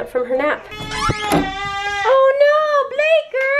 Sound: baby crying

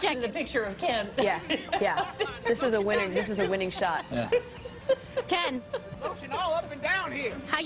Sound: laughter

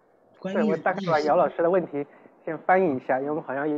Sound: Mandarin

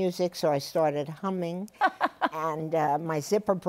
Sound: laughs

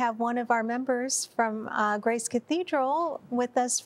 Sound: none

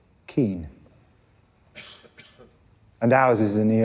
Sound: coughing

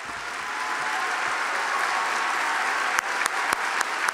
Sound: audience applauding

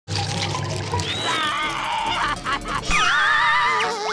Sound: screaming

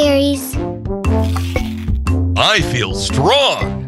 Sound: Ed chomps

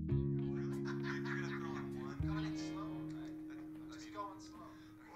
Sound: TV chatter

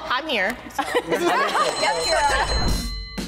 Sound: all laughing; bell ringing; upbeat rhythmic music

